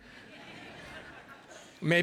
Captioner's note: audience laughing